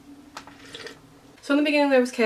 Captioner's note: slurp